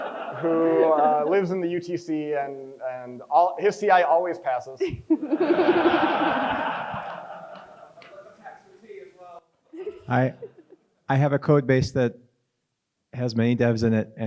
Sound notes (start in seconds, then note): 4.9 crowd chuckles